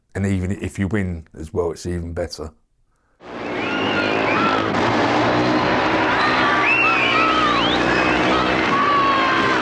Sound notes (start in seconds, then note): 3.2 bikes droning; 3.2 crowd cheering